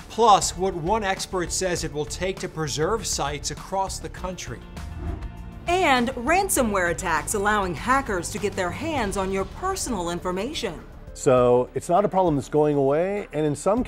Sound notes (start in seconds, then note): 4.8 air whooshes